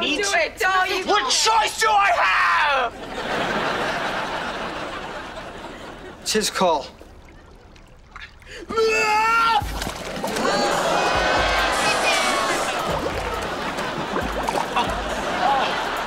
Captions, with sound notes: - I need to do it. - Don't do it, Robbie. What choice do I have?! It's his call. [shrieking] [groaning]